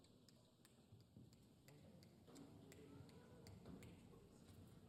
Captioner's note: fingers snapping